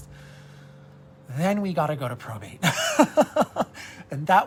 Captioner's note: laughs